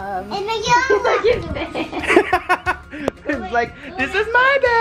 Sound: laughing

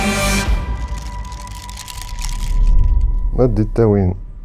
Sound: transition whooshes; man speaking in foreign language

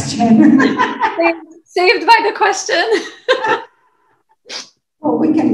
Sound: laughs; laughs

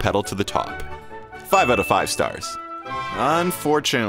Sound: bell ringing

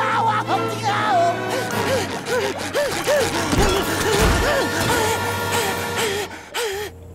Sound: screaming; panting

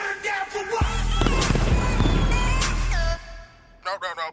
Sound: fireworks screeching, exploding

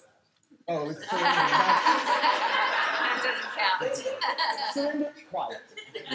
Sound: laughter

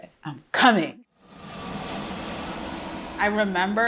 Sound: jet plane engine roars

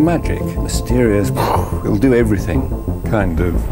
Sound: mouth whooshing

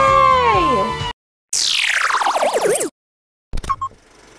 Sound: space noises

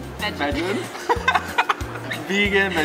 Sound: laughs

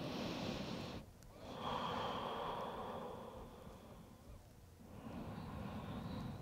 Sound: heavy breathing

